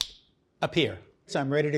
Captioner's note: fingers snapping